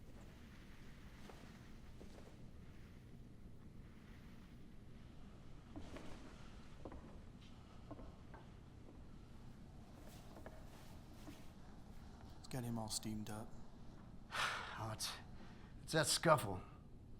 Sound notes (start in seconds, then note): 7.2 footsteps clicking; 14.3 sighs